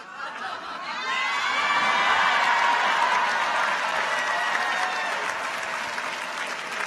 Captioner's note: audience cheers; audience applauds